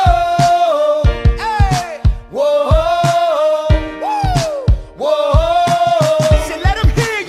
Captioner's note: woo